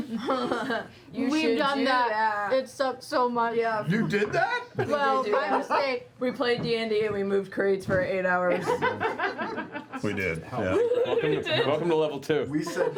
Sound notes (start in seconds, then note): 8.5 laughter